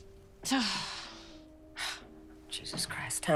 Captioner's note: sighs